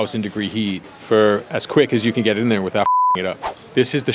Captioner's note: beeps